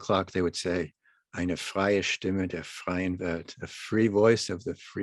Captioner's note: speaking german